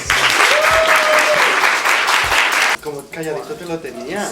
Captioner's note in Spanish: Aplauso